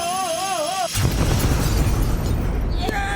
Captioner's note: explosion